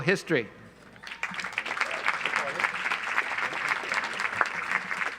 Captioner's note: audience applauds